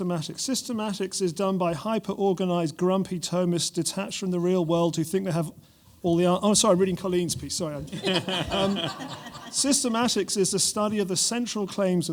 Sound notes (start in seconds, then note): 7.9 laughter